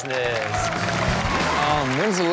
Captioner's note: crowd cheers; rock music plays